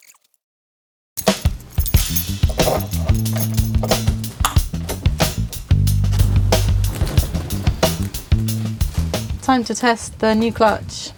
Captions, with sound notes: (clicking) Time to test the new clutch.